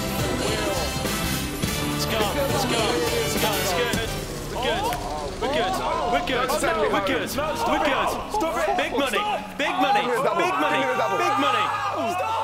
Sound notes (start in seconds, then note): 3.3 ticking; 6.5 shouting